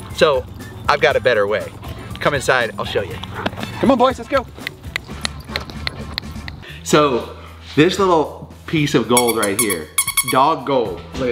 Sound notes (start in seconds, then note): 4.9 fingers tapping